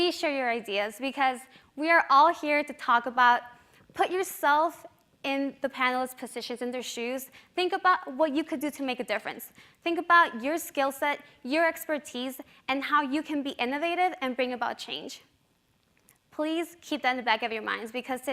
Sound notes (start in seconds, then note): none